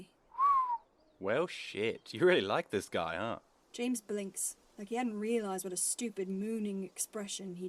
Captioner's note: Sirius whistles